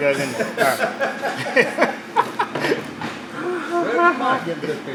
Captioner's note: laughs loudly